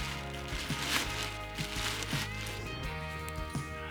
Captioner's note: snow crunching